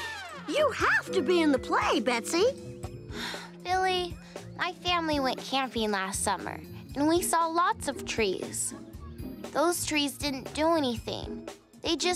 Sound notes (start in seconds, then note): 3.1 sigh